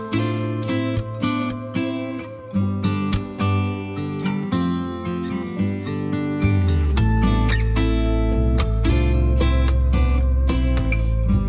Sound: clap

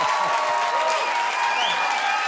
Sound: cheers and applause

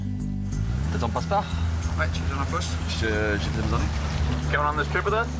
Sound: conversation in foreign language

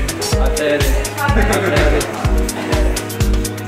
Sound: laugh

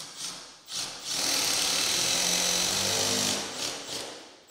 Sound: drill whirring

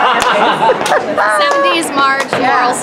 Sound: laughs

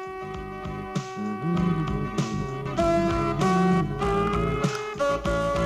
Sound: humming

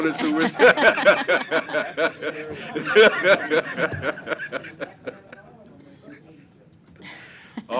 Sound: laughter

